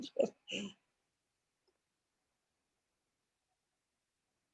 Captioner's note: laughs lightly